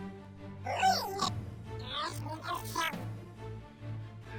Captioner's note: robot makes sounds